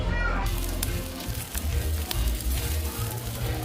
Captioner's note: sizzling